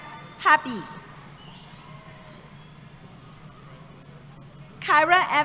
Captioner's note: cheering